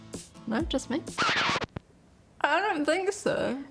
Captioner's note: record scratch